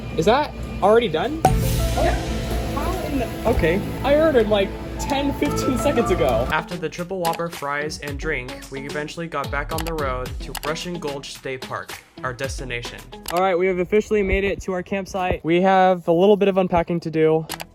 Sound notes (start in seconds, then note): 6.6 voiceover